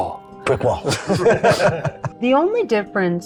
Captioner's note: guys laugh